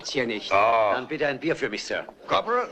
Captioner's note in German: spöttisch